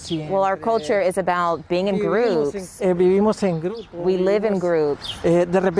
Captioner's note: speaking spanish